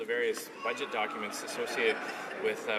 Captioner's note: laughing